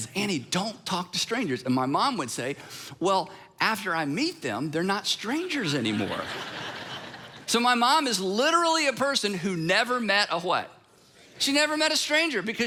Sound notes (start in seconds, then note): 5.8 congregation laughing